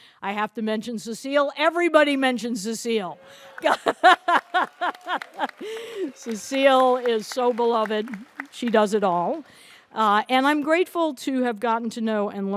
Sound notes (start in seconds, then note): 3.2 audience applauds; 3.6 laughs